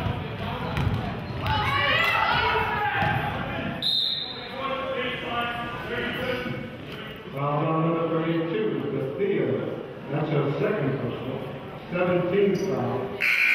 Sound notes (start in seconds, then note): 3.8 whistle blows; 5.0 referee murmurs